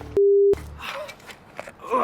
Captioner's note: groaning